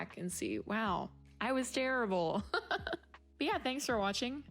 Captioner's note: laughing the pain away